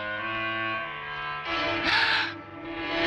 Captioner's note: gasping